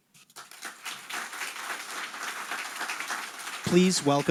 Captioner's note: audience applauding